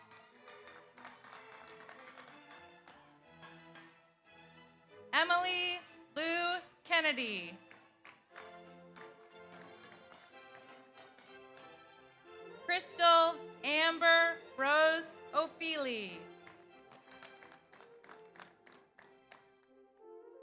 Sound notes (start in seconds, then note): 0.0 audience applauds; 0.2 audience cheers; 7.6 audience applauds; 16.2 audience applauds